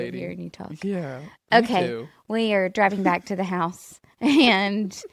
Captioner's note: laughs